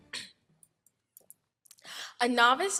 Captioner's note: clears throat